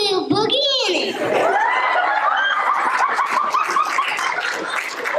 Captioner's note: laughter; applause